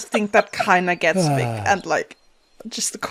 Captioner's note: sighs